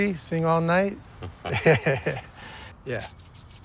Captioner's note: chuckles